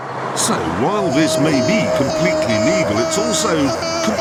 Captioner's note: screams